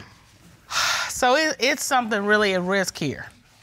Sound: sighs

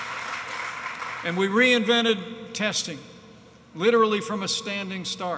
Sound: applause

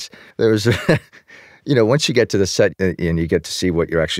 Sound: laughs

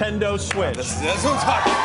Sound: audience cheers

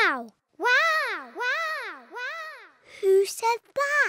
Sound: peppa's voice echoes around mountains

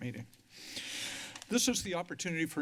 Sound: breathes heavily

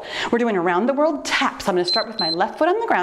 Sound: timer beeps

